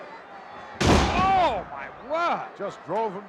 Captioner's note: body thuds